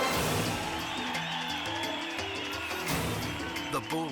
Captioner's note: crowd cheer